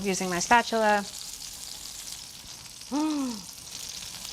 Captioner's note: gasps